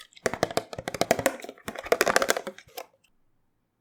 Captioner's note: tappy tap tap tap